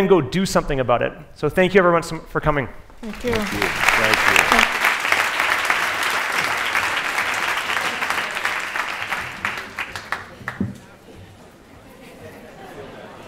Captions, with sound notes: go do something about it. So thank you everyone for coming. (applause)